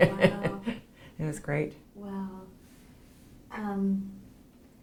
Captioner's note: laughs